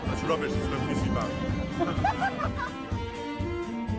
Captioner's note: laughs